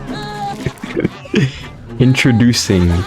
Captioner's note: laughs to myself